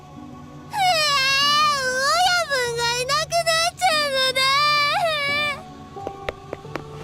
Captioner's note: sob